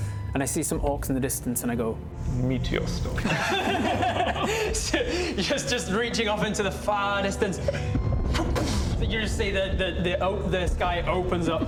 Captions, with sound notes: and I see some orcs in the distance and I go meteor storm *table laughs* Just reaching off into the far distance *whum-boof!* you just see the the open, the sky opens up